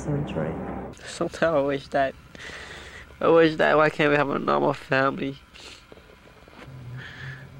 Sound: inhales

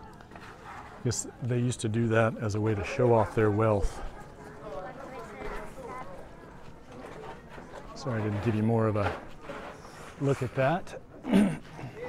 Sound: background chatter

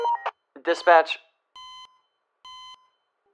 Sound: radio cues up; heart monitor

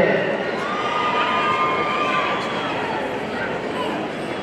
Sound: audience cheering

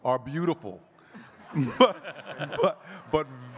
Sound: all laughing

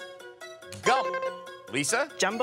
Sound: electronic beeping

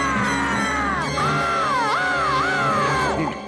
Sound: screaming

